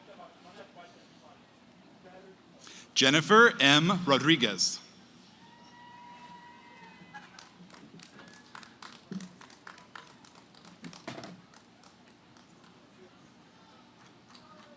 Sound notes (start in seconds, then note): 5.4 cheering, applause; 12.8 background conversations